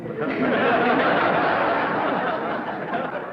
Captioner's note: laughter